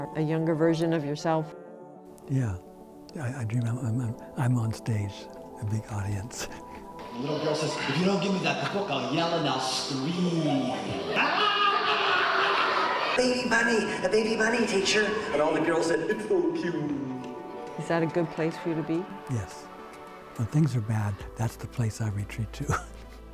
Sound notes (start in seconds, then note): 12.4 laughter